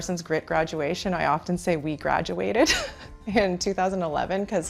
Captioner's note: laughs